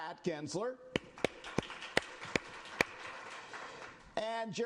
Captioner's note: applause